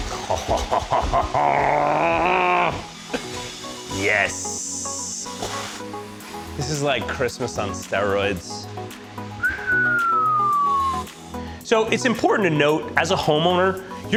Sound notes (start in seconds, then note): 0.1 laughs; 9.3 whistles